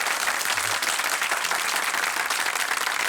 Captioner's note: applause